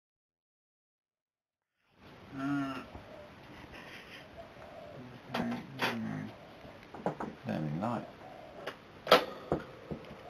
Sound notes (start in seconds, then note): 3.6 giggles; 4.6 pathetic voice